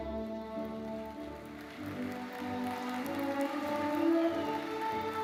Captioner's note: gentle classical music continues; audience applauding